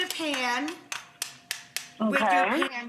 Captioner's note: rapid tapping